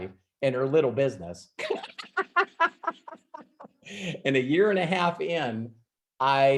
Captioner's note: laughs